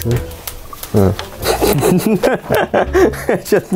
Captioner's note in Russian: смех